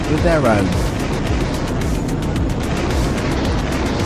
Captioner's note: missile launches